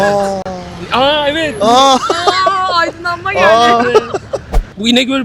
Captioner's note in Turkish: kahkaha